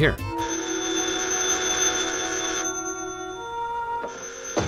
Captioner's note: phone rings